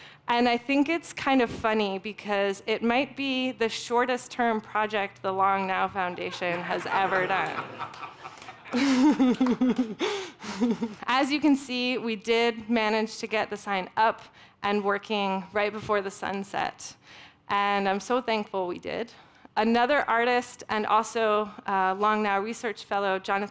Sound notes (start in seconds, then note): 6.1 audience laughs; 9.1 giggles